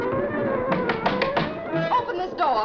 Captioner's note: thudding